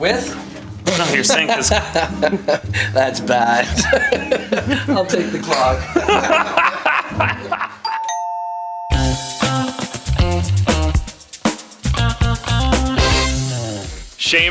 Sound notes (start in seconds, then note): 3.6 laughter; 7.8 doorbell rings; 8.8 upbeat music